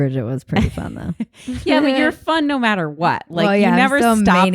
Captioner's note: laughs